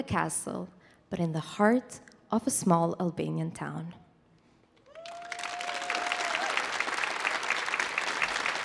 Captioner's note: audience applauding